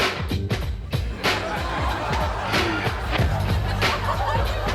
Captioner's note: hip hop music; audience laughs